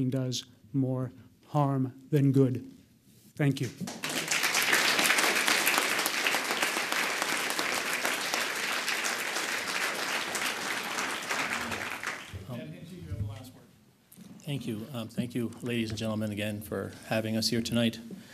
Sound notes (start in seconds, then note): 3.8 audience applauds